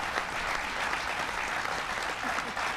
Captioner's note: applause